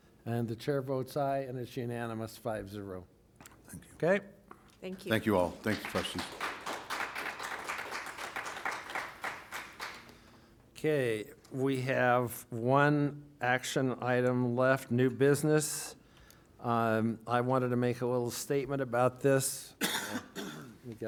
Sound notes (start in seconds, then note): 5.0 applause